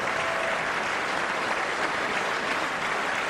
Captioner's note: applause